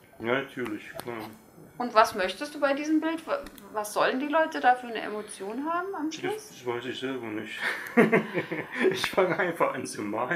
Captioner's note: laughs